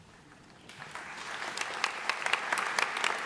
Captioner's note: applause